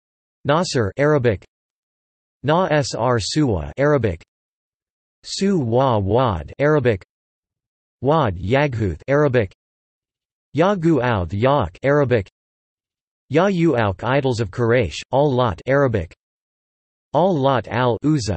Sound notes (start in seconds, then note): 2.0 Arabic: نَـسـر